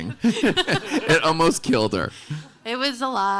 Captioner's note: laughing